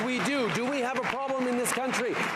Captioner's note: cheering and Applause